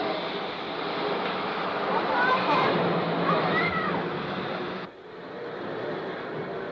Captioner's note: train passes